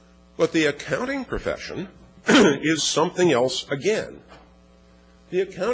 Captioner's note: cough